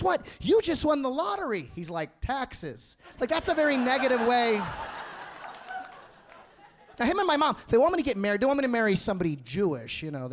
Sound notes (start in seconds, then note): 5.6 audience laughing